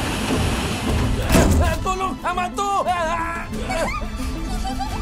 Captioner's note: MechaBot yelps; giggling happily